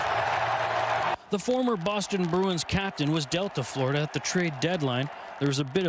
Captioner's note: cheers & Applause